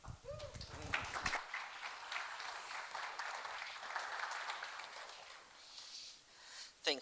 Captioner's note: applause